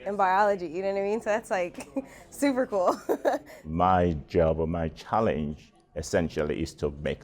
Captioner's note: laughs